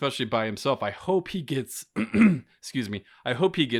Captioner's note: clearing throat